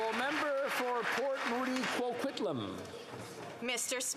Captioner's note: applause